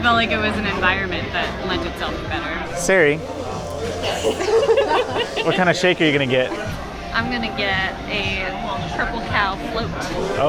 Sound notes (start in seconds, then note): 3.9 laughter